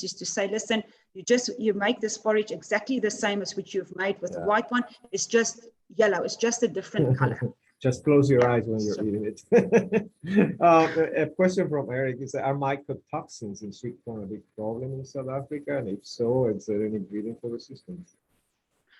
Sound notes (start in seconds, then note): 9.4 brief laughter